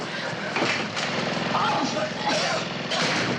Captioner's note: coughing